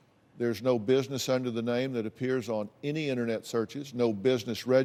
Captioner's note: none